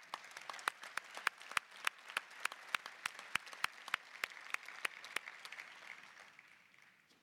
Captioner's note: applause